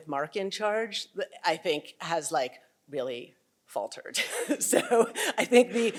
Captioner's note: chuckles